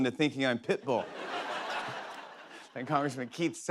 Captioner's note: laughter